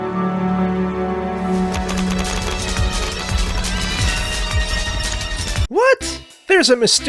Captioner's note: panic noises